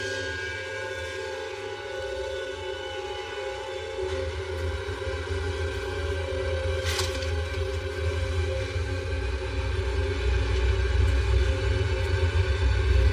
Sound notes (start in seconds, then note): 6.2 items c clatter